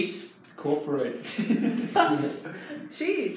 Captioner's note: participants laugh